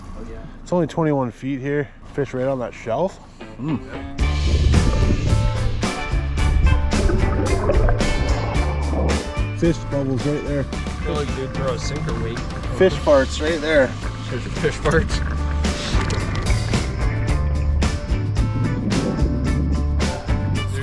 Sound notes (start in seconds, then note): 4.4 upbeat music; 4.4 water flowing; 15.0 laughing; 16.4 water flowing